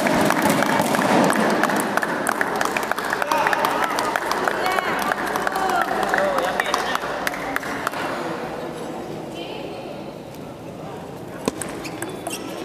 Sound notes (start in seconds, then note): 2.2 applause